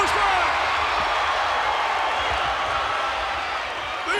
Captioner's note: audience cheers